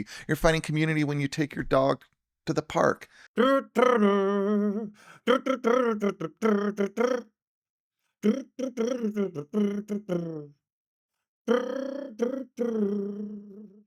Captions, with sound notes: You're finding community when you take your dog to the park. (humming)